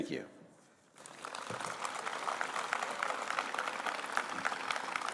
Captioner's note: applause